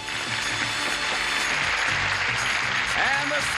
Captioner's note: applause